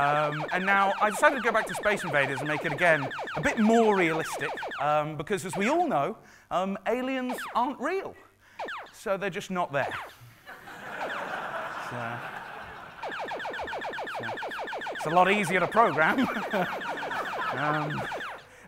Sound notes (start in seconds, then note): 10.4 laughing; 12.8 zapping